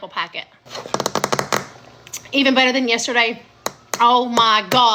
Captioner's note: tapping